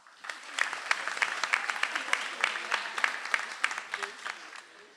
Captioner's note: audience applauds